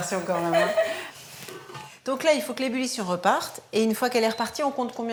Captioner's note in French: rires